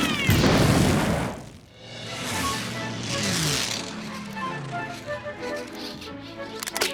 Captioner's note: toy car exploding; playful music; toy plane whirring; toy cracks